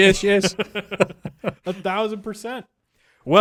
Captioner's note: both laughing